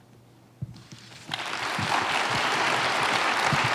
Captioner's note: applause